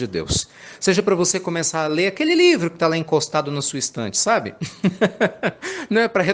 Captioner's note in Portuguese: risadas